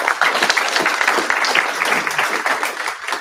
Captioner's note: applause